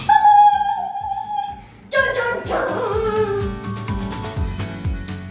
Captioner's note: excited cheering; cheery music